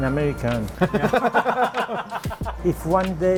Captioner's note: laughs